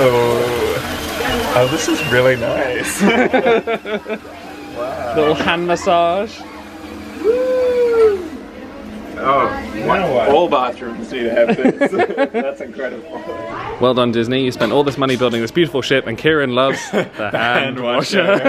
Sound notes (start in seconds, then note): 2.9 laughs